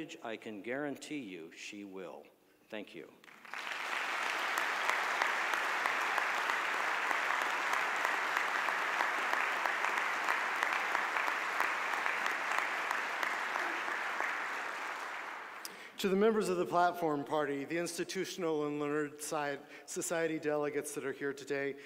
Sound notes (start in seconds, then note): 3.2 audience applause